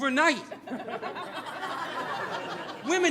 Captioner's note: audience laughing